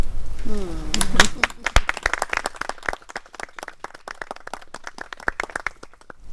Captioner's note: murmurs of approval; applause